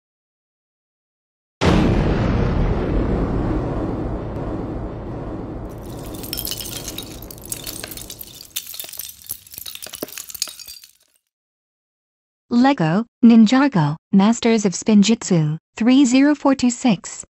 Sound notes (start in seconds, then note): 1.6 explosion; 5.8 Sound of LEGO pieces falling